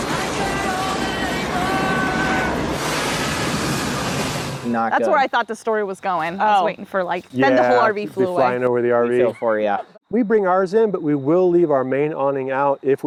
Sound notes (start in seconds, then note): 2.8 tornado wooshes